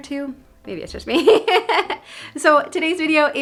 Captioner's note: laughing